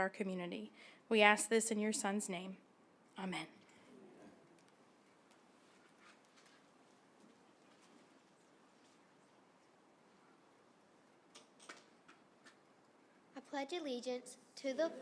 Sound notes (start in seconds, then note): 3.7 silence